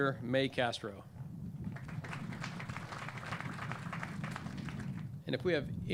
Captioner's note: clapping